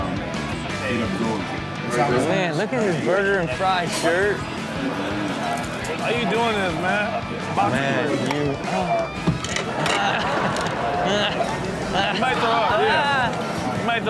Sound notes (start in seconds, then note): 4.5 audience laughs; 9.6 audience laughs; 11.0 Rob retching